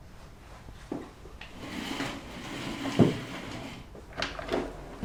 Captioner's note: pulling up chair